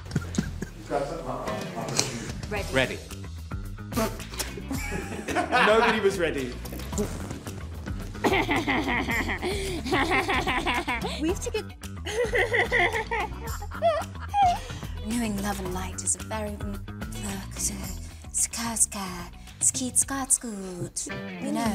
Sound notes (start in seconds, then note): 0.0 Vanessa laughs; 0.0 people laughing; 0.3 man laughs; 1.0 background chatter; 4.7 actors laughing; 8.2 Vanessa laughs; 12.0 people laughing; 17.2 Vanessa speaking gibberish